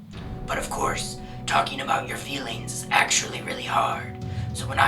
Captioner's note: in a gruff, deep voice